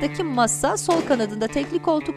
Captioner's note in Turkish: Kapı kapanma sesi